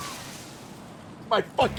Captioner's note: laughs; screams